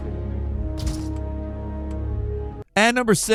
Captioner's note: subdued music; cranking sound effect